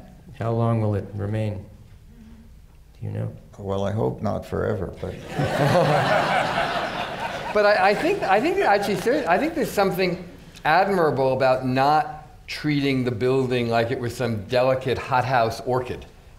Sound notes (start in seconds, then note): 5.1 laughter